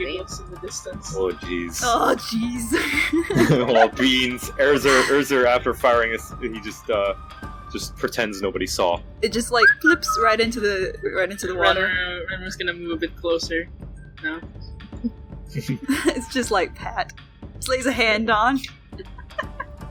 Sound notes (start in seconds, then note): 9.4 nonchalant whistle